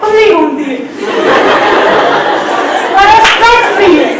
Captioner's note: everyone laughs